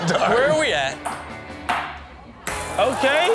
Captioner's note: ball thuds